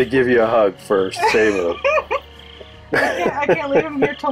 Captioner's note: laughs